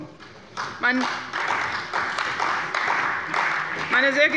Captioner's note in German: Beifall bei der CDU und dem BÜNDNIS 90/DIE GRÜNEN